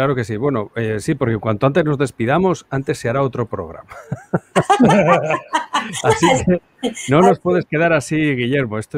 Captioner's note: laughs